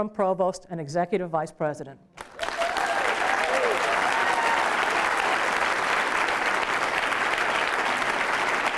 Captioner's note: applause